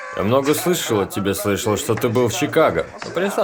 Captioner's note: chuckling